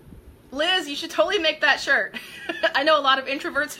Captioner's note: laughing